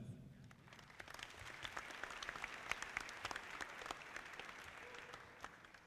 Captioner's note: audience clapping